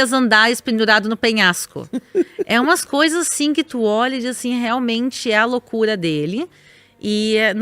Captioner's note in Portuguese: risadas